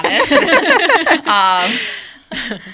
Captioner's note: people laughing